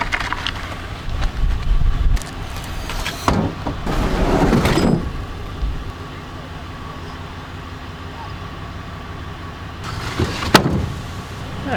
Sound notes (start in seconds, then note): 0.1 clattering; 4.1 scraping